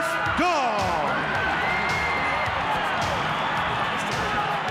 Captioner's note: crowd cheers